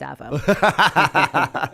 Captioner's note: laughter